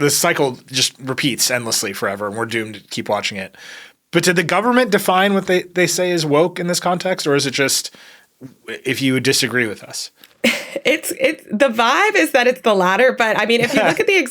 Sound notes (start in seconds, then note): 10.4 laughs; 13.6 chuckles